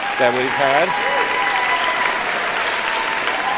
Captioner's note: applauding; cheering